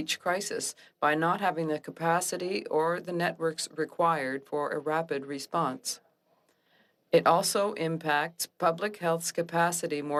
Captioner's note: speaking French